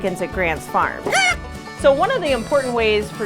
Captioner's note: chicken clucks